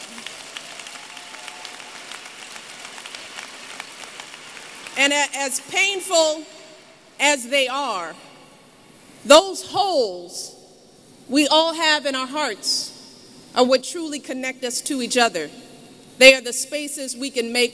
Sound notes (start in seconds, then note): 0.0 applause